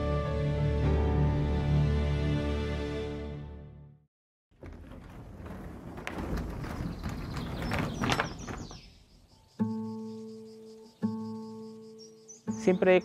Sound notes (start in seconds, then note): 6.6 birds chirping; 9.4 relaxing music